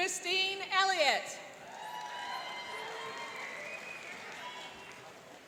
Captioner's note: cheering and applauding